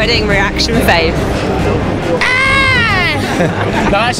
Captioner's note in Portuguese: aaaahhhhhh!